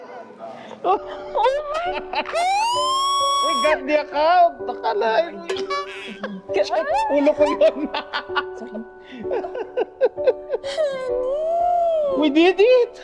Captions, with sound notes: Oh my God! [Ambulance Siren] We got the account! Can you believe that? Don't touch my head. Sorry Henny we did it!